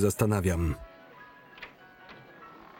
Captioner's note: door opens